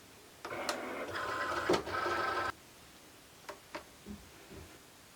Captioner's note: machine buzzing